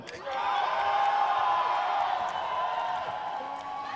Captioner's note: crowd cheers